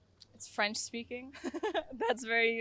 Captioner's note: laugh